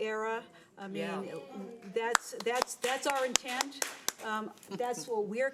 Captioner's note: audience applauds